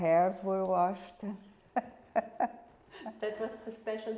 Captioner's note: laughing